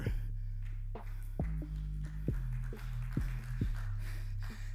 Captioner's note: audience clapping